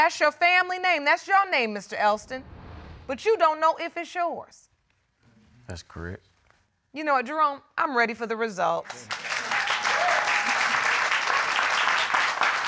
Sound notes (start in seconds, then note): 8.9 audience cheering